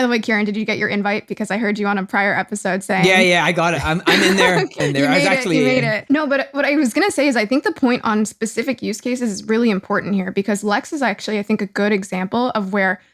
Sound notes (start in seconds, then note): 3.9 laughing